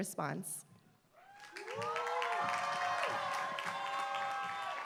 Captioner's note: applause